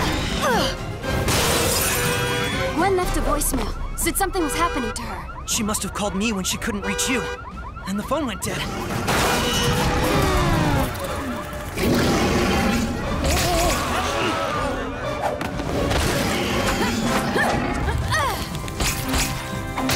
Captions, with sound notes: [WINCING] Gwen left a voicemail. Said something was happening to her. She must have called me when she couldn't reach you, and the phone went dead. [CRASHING] [GROWLING] [WINCING]